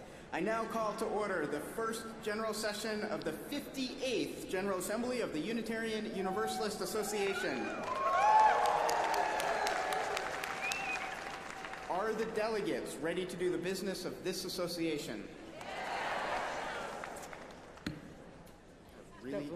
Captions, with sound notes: YOU ALL READY? HERE WE GO. I NOW CALL TO ORDER THE FIRST GENERAL SESSION OF THE FIFTY-EIGHTH GENERAL ASSEMBLY OF THE UNITARIAN UNIVERSALIST ASSOCIATION. [APPLAUSE] ARE THE DELEGATES READY TO DO THE BUSINESS OF THIS ASSOCIATION?